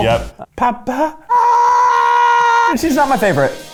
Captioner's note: yells